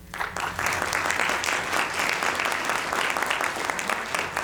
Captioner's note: audience applauding